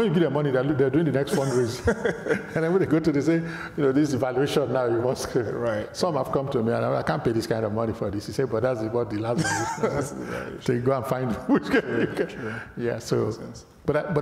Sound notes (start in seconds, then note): 9.3 laughs